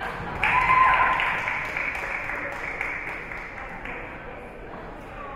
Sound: spectators cheering and applauding

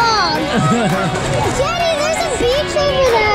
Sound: laughs

